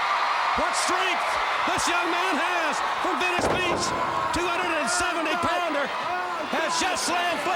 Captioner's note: crowd cheering